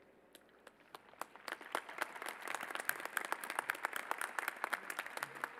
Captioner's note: applause